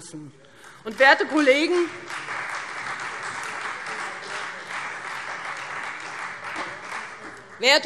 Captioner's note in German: Beifall Freie Demokraten